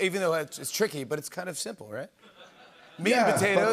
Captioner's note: laughter